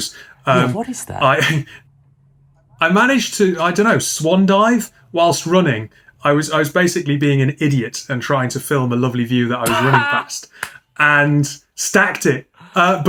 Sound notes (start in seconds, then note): 9.6 man laughs and claps